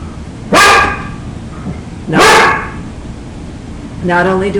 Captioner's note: dog barks